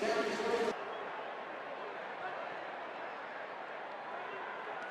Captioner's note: pa announcement